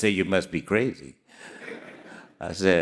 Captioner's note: audience laughing